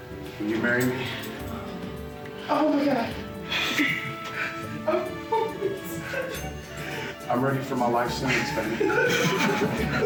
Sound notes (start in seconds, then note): 3.5 laughs; 8.2 laughing